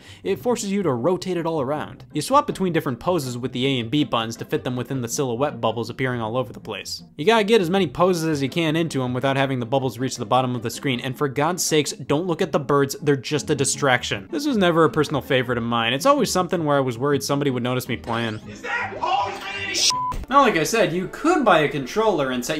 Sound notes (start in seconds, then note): 19.8 beep